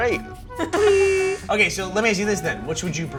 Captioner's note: laughing; buzz